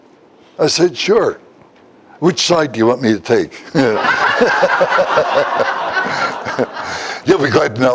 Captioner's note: Смех